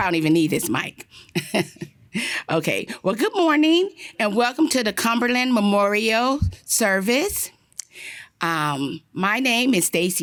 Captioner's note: laughter